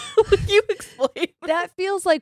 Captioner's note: giggles